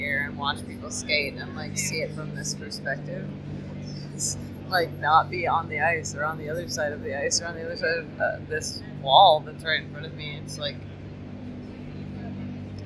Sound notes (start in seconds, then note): none